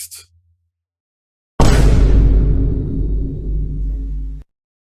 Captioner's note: generic youtube meme boom